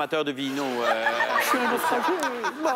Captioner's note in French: rires